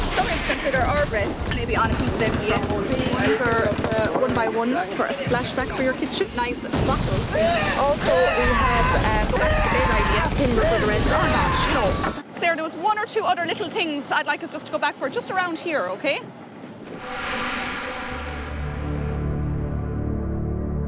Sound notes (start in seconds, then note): 0.1 machine gun sounds; 3.4 machine gun sounds drowns out speaker; 7.3 machine gun, man yells; 16.9 somber music